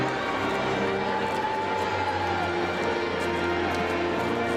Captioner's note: crowd cheering